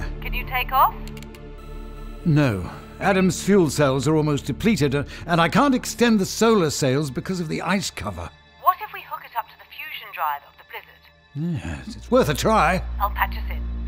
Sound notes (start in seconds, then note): 0.3 radio; 1.0 typing; 8.8 radio; 13.0 radio